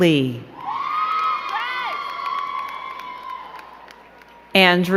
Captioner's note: crowd cheering and clapping